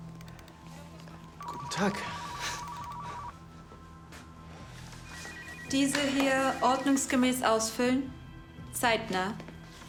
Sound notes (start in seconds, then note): 1.2 office sounds